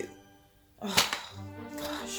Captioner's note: groans